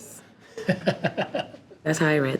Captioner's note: chuckles